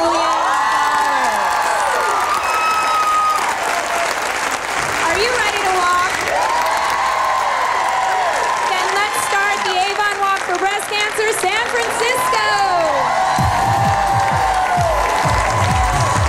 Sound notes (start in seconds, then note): 0.2 cheering; 8.0 crowd; 14.2 cheering; 14.2 live music